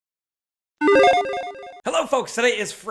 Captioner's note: logo beeps